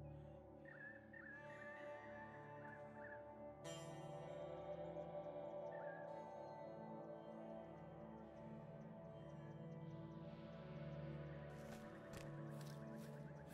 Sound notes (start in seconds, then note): 1.1 birds chirping; 1.1 steady ominous music